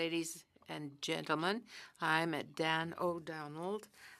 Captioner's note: speaking French